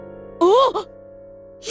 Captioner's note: sort of big gasp